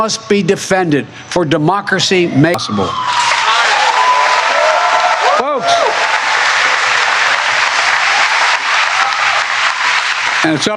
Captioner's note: cheering and applause